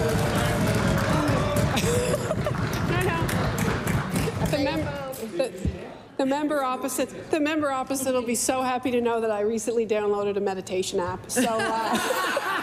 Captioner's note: cheering/Applause